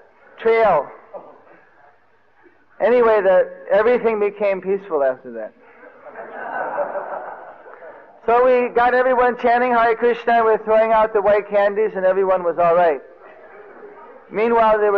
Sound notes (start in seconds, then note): 5.6 devotees laughing